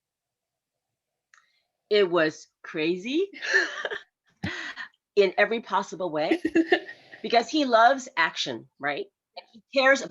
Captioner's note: laughs